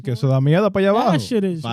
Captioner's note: speaking In Foreign Language